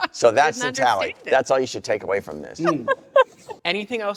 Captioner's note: laughter continues